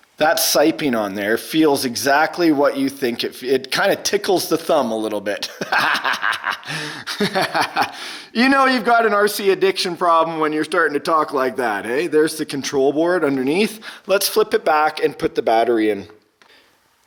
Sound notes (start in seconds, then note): 5.4 laughs